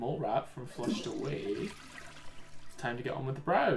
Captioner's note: toilet flushing